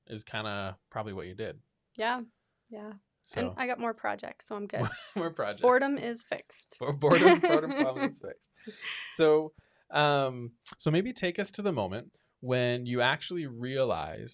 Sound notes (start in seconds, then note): 6.9 laughing